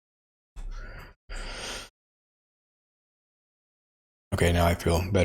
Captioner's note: blank Audio